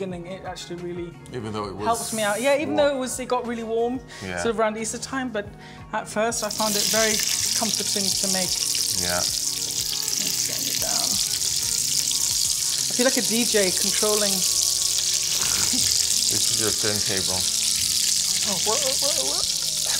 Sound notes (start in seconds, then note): 8.6 vegetables sizzling; 11.3 vegetables sizzling; 18.4 squeaking